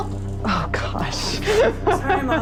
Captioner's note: laughs